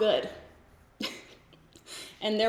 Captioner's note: giggles